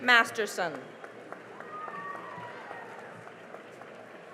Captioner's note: cheering and applause